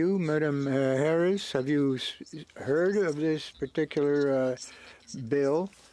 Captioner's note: speaking French